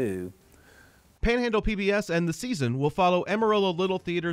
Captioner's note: voiceover